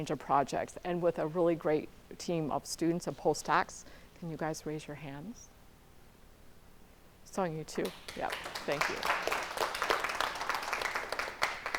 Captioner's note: applause